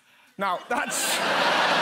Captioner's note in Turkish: Kahkaha